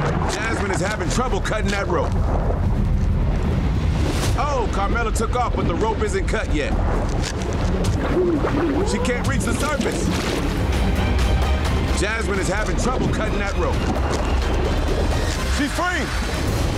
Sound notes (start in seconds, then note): 8.6 water splashing; 10.6 urgent music; 14.3 dramatic music; 14.3 scissor scratching